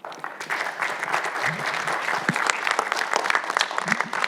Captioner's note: audience applauds